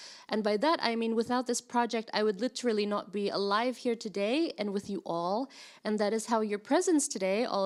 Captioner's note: none